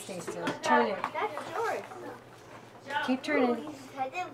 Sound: background chatter

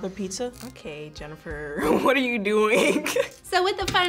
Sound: laughs

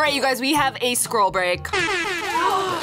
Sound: air horn blares; gasps

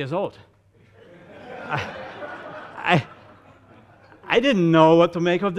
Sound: audience laughing

